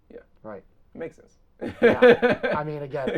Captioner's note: laughs